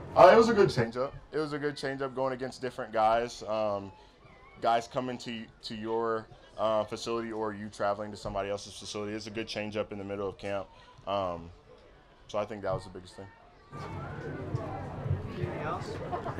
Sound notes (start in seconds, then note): 13.5 crowd chattering